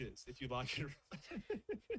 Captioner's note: laughs